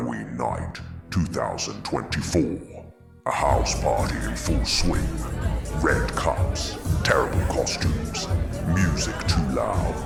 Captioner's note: people partying